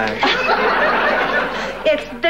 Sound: audience laughing

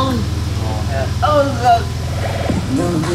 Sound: argh

